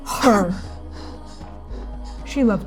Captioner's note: ragged breathing; gasping, breathing; exhaling sharply